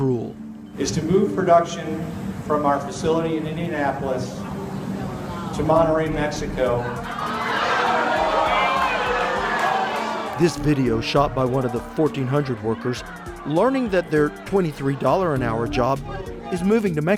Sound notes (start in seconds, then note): 7.2 employees make boo sounds and are upset